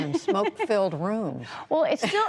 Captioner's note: laughter